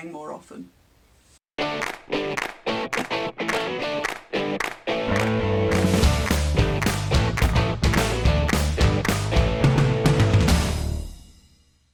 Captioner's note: claps